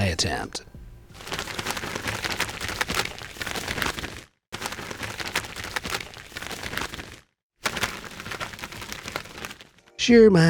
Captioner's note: gloves flutters